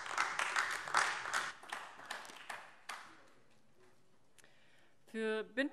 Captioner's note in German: Beifall AfD